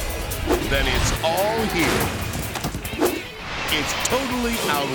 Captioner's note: engines revving